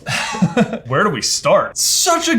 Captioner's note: laughs